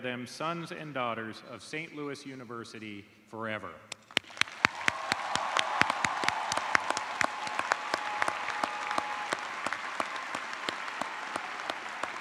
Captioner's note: cheers and applause